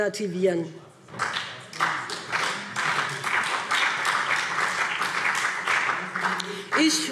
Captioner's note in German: Beifall BÜNDNIS 90/DIE GRÜNEN und CDU